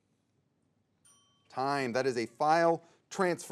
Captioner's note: timer dings